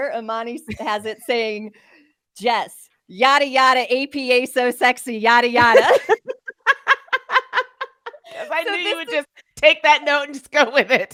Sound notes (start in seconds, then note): 5.6 both laughing